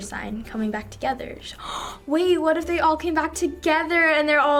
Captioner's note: gasps